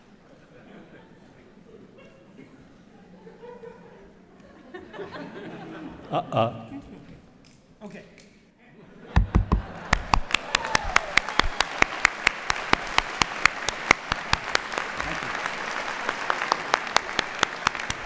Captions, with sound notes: [LAUGHTER] OK. [LAUGHTER] [APPLAUSE] Thank you.